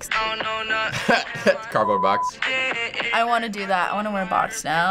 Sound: chuckles

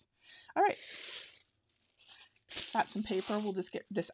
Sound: paper rustling

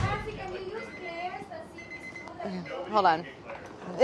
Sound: upbeat percussion music; timer beeping

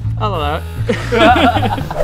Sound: cheeky laughter

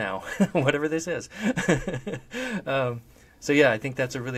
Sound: laughs

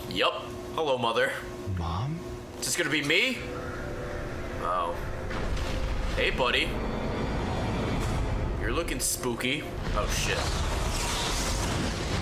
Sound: stress screams

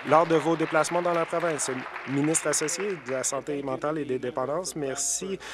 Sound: applause

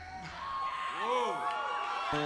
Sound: audience applauding

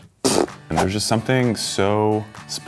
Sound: blows raspberry

